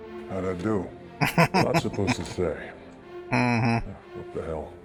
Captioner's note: laughing